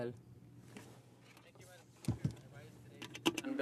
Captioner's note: speaking French